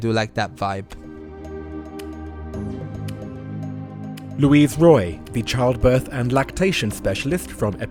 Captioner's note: voiceover